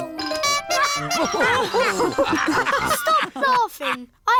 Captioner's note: toots horn; all laugh